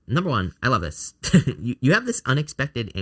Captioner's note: laughs